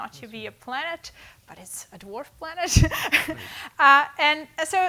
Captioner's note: laughing